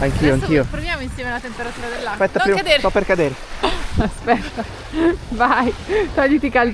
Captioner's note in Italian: risate